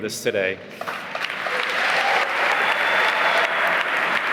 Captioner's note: applause